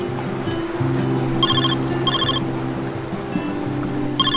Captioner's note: sound of waves on a beach; phone ringing